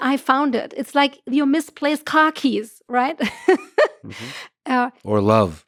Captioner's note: laughs